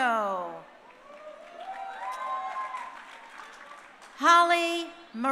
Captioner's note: crowd cheering